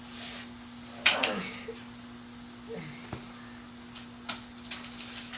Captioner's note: moaning